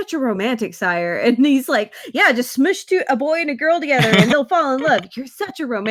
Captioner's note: laughs